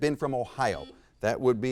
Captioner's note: buzzer beeps